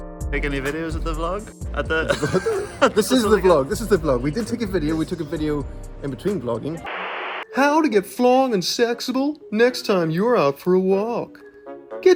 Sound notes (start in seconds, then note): 1.9 laughs; 6.8 static crackling